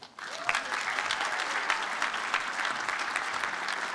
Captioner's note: applause